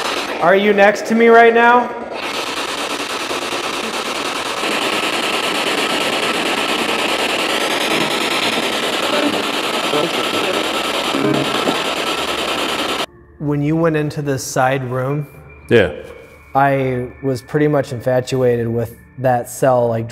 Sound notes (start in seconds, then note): 1.9 static signaling; 10.0 disembodied Voice